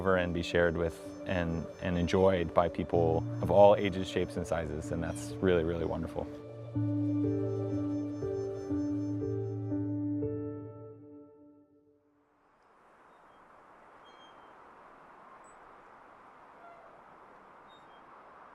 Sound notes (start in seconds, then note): 7.7 soft piano music; 12.9 swing creaking; 15.8 wind blowing